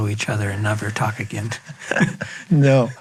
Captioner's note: laughs